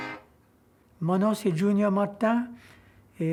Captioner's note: speaking Creole